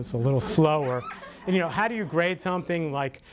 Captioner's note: audience laughter